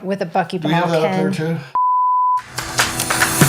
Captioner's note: beep; upbeat music